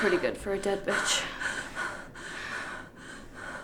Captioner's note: heavy breathing